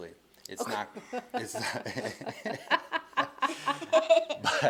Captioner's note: all laughing